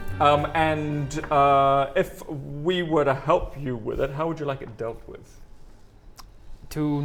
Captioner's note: none